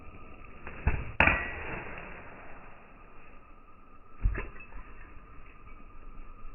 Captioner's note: bottle breaking in slow motion